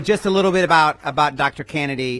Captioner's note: applause